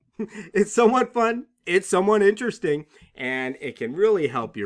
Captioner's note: laughter